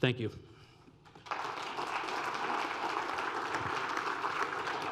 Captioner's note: audience applauding